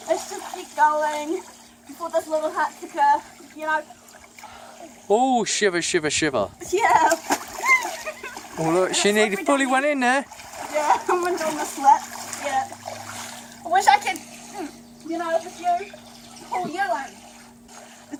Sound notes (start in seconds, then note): 13.4 crying out in cold